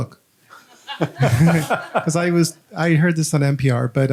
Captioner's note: audience laughing